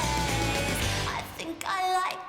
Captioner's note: cheering